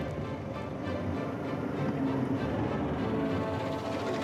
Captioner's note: expectant music; tractor rumbles